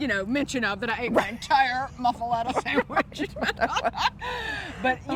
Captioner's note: laughs